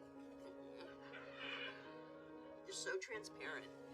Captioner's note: groans